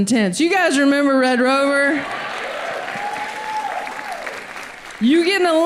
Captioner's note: audience applauds